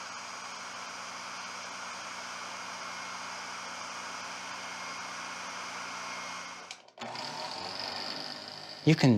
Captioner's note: lathe buzzing